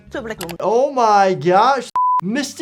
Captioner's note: screen beeping